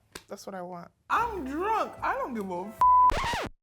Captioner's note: beep